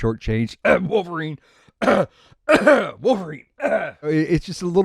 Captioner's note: cough